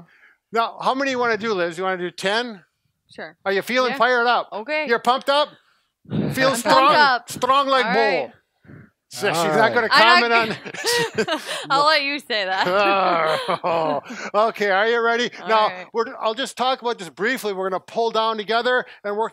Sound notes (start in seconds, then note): 6.9 Russian accent; 9.4 laughs